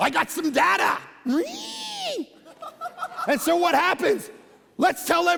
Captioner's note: congregation laughing